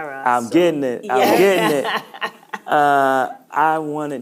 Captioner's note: laughing